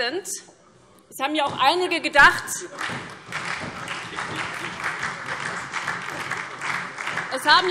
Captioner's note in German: Beifall SPD, vereinzelt CDU, BÜNDNIS 90/DIE GRÜNEN und DIE LINKE